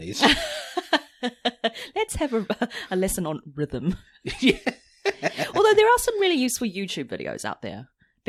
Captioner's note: laughs